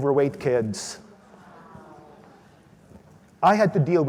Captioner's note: audience groans